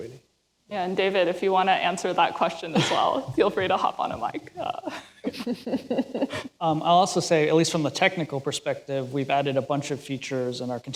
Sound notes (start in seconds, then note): 4.5 laughter